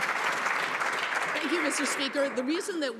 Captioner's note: some Applause